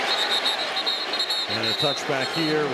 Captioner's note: whistle